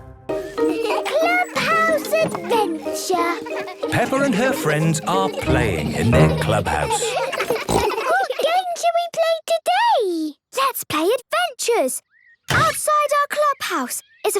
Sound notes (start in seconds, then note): 7.6 giggles, snorts